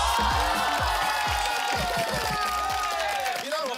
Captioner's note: clapping